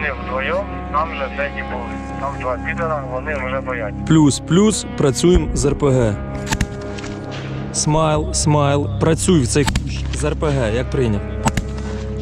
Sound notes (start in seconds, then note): 4.1 radio out